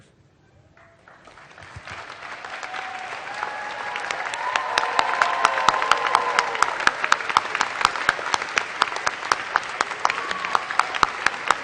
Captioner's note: applause